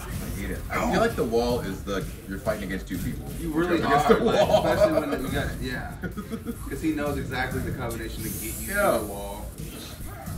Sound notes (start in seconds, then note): 4.0 laugh